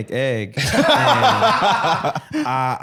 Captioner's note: laughing